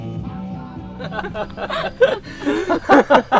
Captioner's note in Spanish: risas